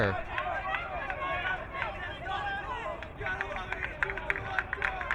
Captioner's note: crowd cheering